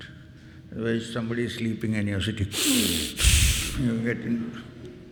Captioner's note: exaggerated inhale